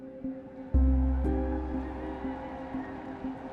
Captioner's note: crowd cheering